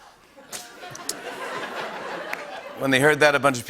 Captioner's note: laughter